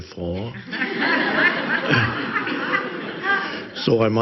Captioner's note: audience laughs